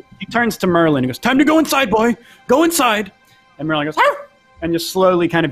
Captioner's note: barks